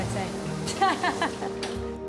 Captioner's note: laughs